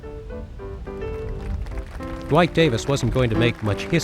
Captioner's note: audience applauding